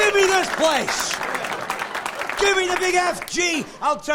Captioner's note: clapping; cheering